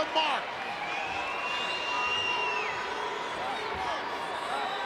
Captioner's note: crowd yelling